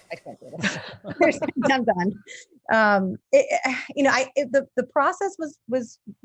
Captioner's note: laughing